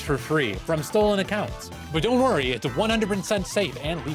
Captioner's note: sarcasm